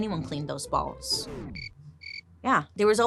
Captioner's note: insects chirping